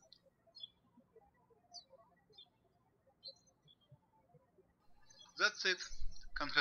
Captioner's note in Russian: птички щебечут